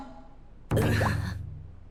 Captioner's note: sigh